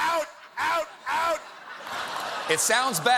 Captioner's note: laughter